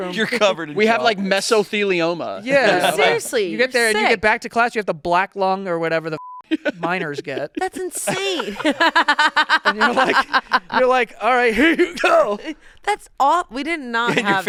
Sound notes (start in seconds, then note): 6.2 beep; 6.5 laughs